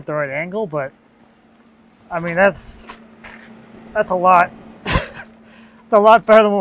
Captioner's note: laughing